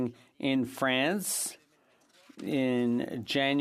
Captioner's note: french